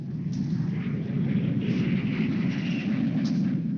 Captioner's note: airplane engine whirring